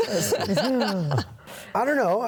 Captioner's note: laughing continues